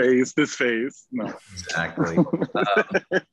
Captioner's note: laughing